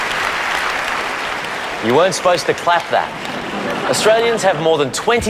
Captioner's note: laughter